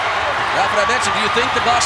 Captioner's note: audience cheering